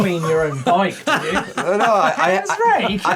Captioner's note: laughs